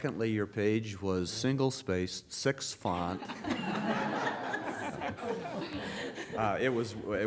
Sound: laughter

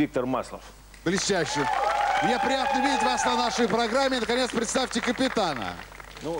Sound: applause

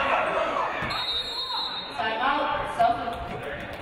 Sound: referee blows whistle

